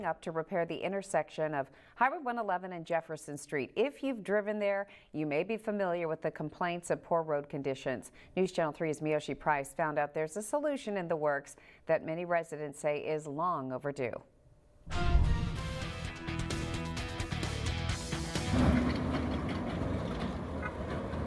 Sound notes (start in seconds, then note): 18.5 driving of street bumps